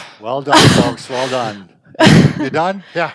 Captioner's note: laughs